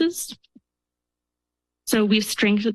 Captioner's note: pause